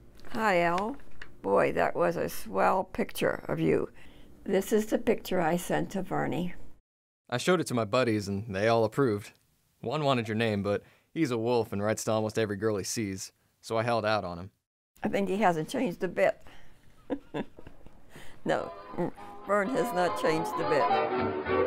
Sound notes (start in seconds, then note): 17.0 laughs; 21.5 upbeat jazz music